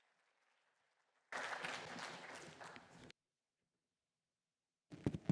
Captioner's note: applause